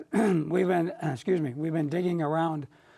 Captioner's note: clears his throat